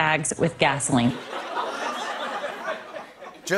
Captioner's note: laughter